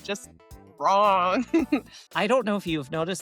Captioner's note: laughs